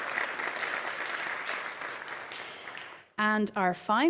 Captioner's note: applause